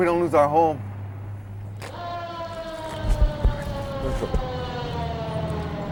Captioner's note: sirens